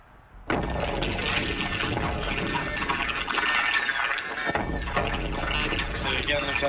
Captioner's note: sirens, sounds of battle